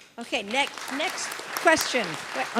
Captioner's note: applause